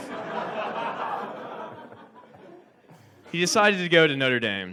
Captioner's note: audience laughs